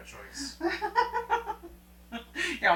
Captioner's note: laughing